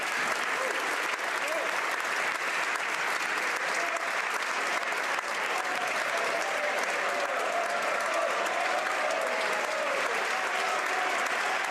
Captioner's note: applause